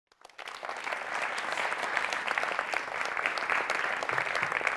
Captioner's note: audience applauds